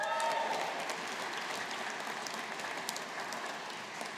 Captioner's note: audience applauding